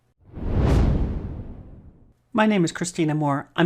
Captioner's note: swoosh